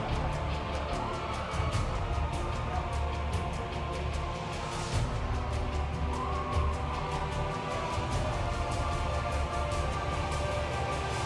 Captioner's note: crowd cheering